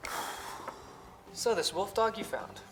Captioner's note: Ozz sighs